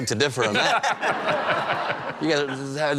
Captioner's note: laughter